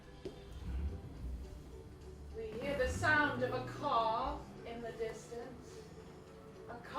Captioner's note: sound of car starting